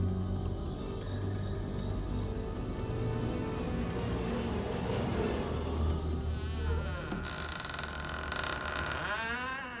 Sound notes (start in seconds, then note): 4.8 door creaks